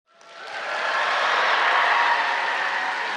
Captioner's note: applause